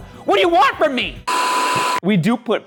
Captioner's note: screen buzzing